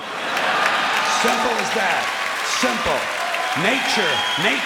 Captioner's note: clapping and cheering